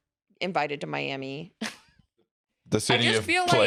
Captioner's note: laughs